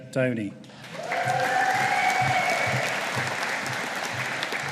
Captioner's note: audience applauding